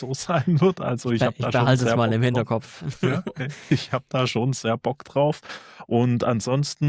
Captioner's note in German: gelächter